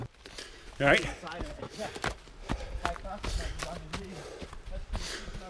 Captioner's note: breathing sfx